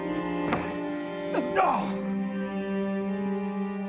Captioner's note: man gasps